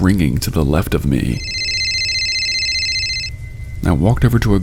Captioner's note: cellphone ringing